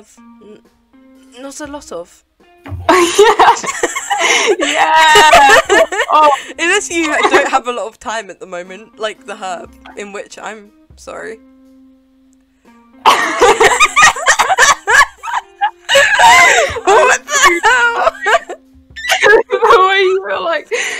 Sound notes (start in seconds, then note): 2.9 stressed laughter; 12.1 judgemental silence; 13.0 judgemental laughter; 15.6 awkward laughter